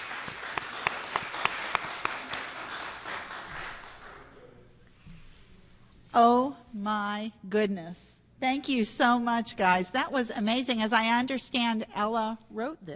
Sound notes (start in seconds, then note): 0.0 applause